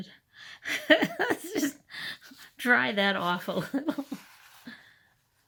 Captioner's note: laughter